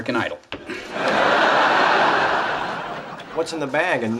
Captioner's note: audience laughs